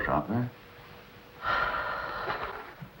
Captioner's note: sighing